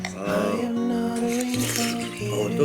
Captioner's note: slurp